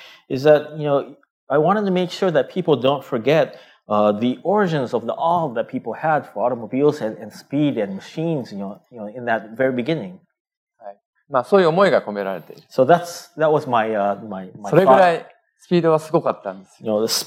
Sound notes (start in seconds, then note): 11.9 speaking japanese; 16.0 speaking japanese